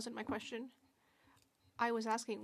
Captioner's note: speaking French